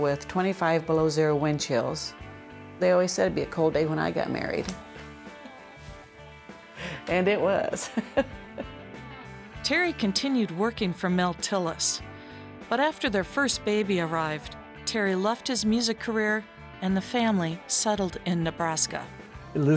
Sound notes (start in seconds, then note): 5.1 laughter